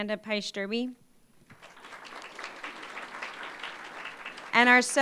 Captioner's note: applause